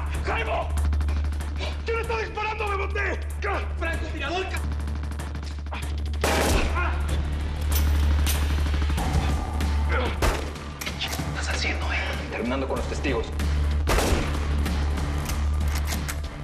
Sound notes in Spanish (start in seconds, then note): 6.2 Disparo; 13.8 Disparo